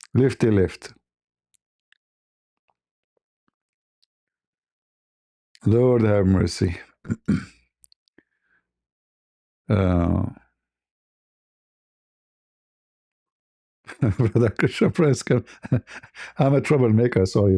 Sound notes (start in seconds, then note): 7.0 berdehem